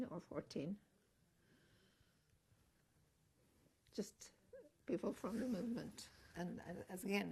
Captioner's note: pauses for 3 seconds